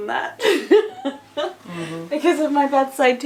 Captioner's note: laughing